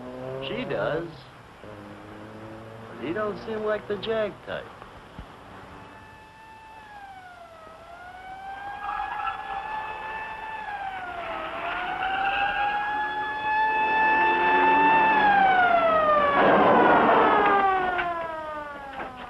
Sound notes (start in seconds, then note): 6.7 siren blaring; 9.8 tires screeching